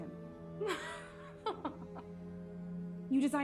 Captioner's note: laughing